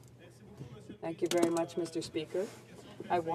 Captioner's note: speaking in french